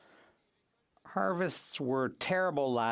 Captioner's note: speaking French